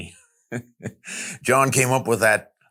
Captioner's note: chuckles